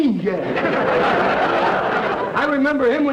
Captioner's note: audience laughter